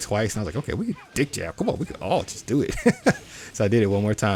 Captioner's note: chuckles